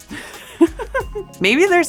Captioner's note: laughs